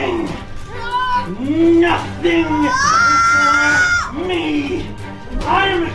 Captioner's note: screaming